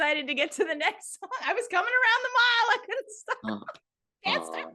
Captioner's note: laughs